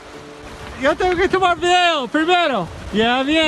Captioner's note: in Spanish